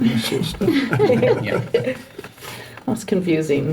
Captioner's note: all chuckling